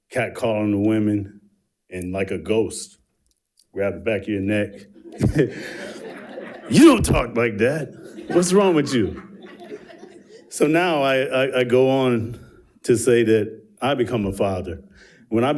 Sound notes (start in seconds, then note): 4.4 chuckles